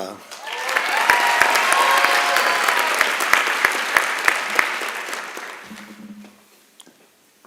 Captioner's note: applause and Cheering